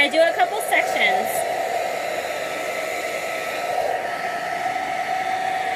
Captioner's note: hair dryer blowing